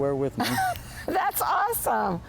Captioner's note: laughs